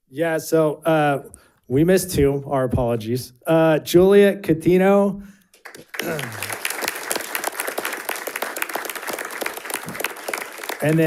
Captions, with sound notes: - Yeah, so we missed two, our apologies. Juliet Catino. (audience applauding)